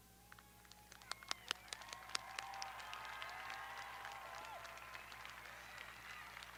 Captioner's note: audience applauding; audience cheering